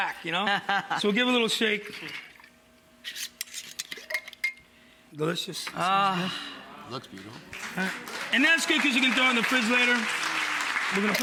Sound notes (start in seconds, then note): 0.4 laughs; 2.2 dressing splashing; 3.1 metal lid scraping & clanking; 7.0 audience applauding